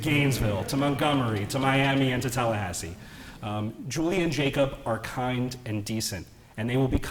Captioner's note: laughter